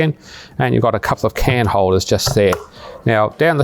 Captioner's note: lid clicks